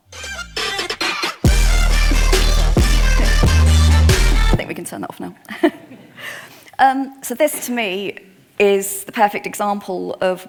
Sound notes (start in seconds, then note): 0.0 upbeat music; 6.8 laughs